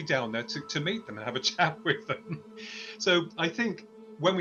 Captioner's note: chuckles